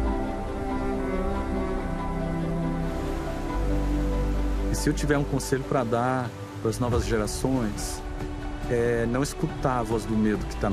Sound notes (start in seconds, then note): 4.7 non-english speech